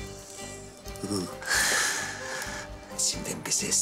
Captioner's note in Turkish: Gülüyor